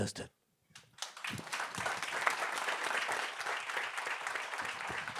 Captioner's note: group clapping